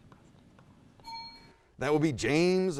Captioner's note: bell dings